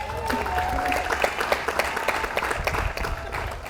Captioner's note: audience applauds